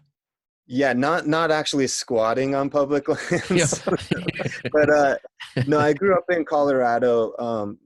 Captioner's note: laughter